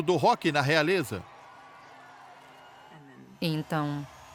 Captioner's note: crowd cheering